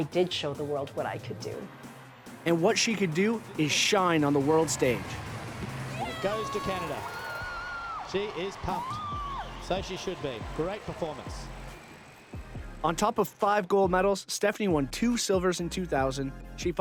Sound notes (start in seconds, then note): 7.7 cheering